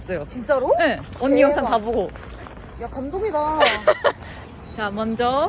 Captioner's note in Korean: 웃음